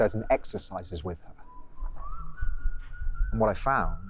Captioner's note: man whistling